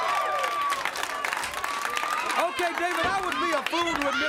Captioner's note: crowd cheering